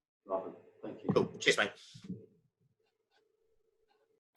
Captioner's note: murmurs